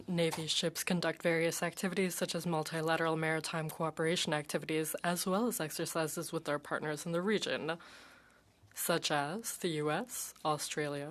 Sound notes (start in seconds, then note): 1.0 speaking French